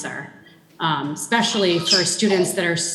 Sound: child shrieking

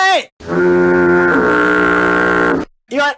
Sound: foghorn

